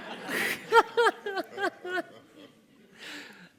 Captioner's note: laughing